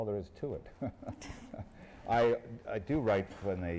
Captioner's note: laughs